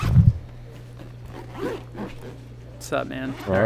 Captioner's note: zippers being zipped